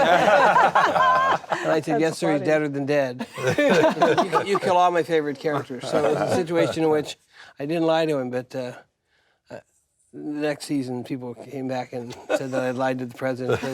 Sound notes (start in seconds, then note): 0.0 laughter